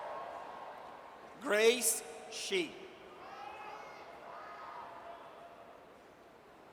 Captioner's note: audience cheers; audience cheers